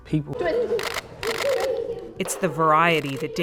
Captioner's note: kids laughing; camera shutter clicking